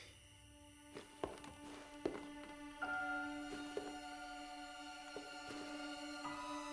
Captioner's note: uneasy music; footsteps tap